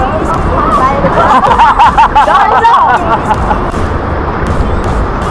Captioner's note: laugh